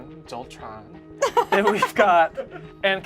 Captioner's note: laughs